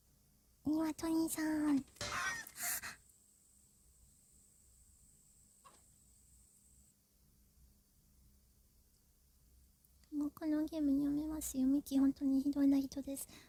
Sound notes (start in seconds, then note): 2.0 bonk